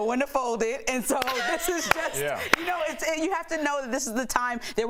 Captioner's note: laughter